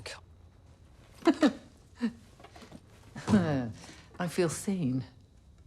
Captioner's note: laughs